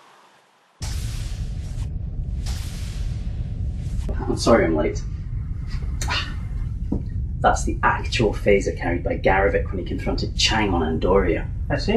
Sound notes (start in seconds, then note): 1.1 door opens and closes